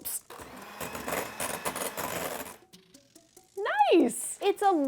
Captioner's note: whisk whirs